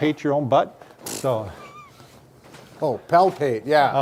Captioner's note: snorts